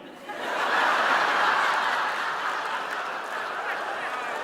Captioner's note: audience laughing